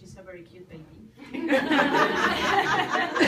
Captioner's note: people laugh